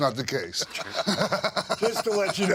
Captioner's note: Sean laughs